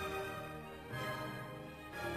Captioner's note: none